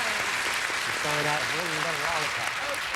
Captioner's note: audience applauding